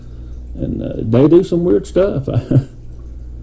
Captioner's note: chuckles